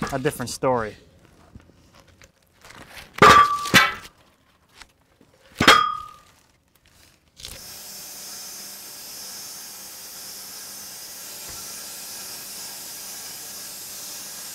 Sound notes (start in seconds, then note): 3.0 metal clanging; 7.5 machine sawing